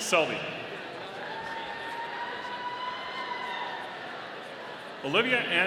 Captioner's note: audience cheering